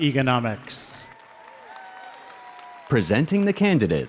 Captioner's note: audience applauds